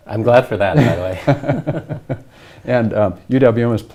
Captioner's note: both laugh